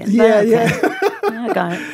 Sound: laughs

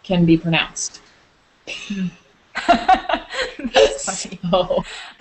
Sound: both girls laugh, says, "That's funny!"

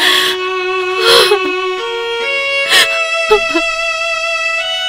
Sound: sobbing

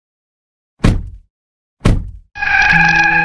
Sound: door slam; car screeches

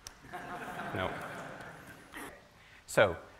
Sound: laughter

